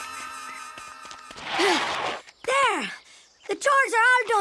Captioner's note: panting